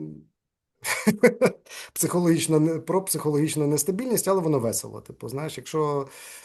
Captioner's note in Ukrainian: сміється